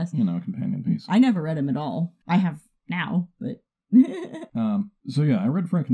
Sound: giggles

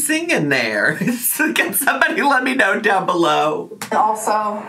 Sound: laughs

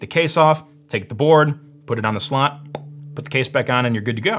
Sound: makes popping noise

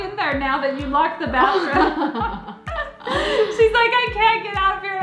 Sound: laughs

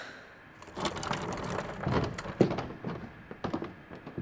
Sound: person sighs; chair rolls

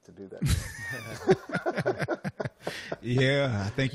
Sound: laughter

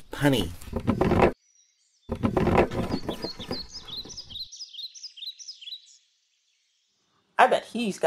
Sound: birds

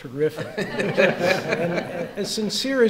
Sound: audience laughs

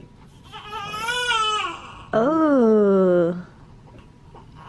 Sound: baby crying

